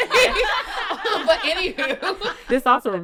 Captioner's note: all laugh